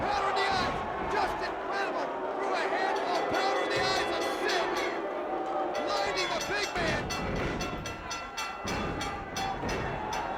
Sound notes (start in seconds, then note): 5.0 bell rings; 5.0 crowd boos